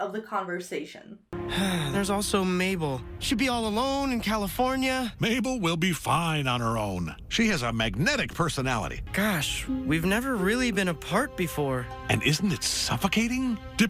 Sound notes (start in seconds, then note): 1.4 Dipper sighs